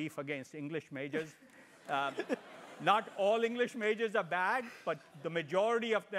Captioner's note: laugh